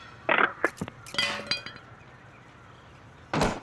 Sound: clanking

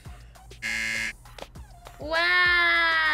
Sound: buzzer rings

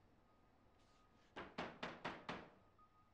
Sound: knocking

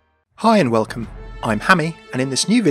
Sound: voiceover

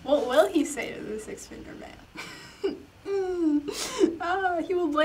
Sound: laughs

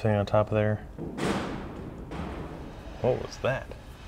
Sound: clanging

